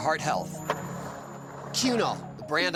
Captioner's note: skateboard wheels roaring